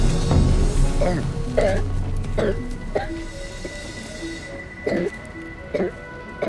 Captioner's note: coughing